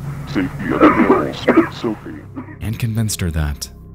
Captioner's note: Brian coughs